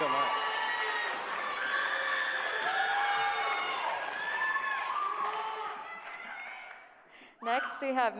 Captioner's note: applause